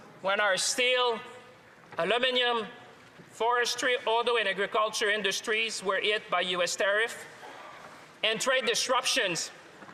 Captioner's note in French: voix de l'interprète